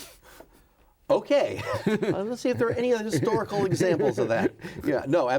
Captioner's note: both laughing